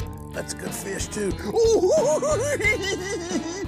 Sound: giggling

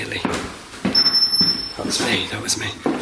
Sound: alert sounding

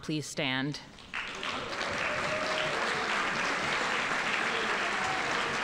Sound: audience applauding

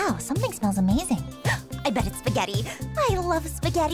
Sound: Bess gasps

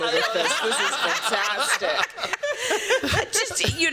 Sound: laughter

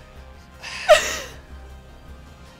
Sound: sighs

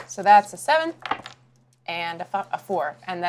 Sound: die clatters

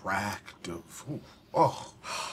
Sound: sighs

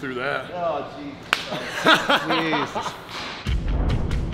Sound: laugh

